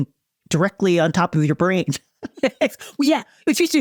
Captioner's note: chuckles